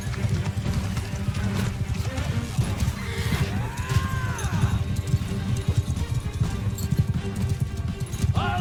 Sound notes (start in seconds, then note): 2.6 horse whinnies; 3.0 soldier yells